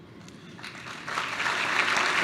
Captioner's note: applause